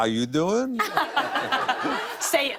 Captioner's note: laughter